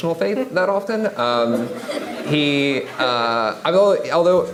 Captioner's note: audience laughing